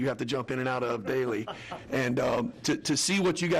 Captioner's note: laughs